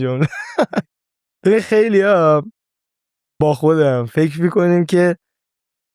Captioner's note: laughs